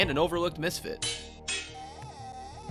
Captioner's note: clang